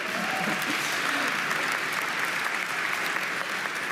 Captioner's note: audience applauding